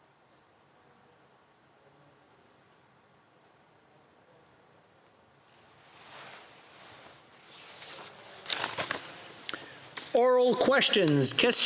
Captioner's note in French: silence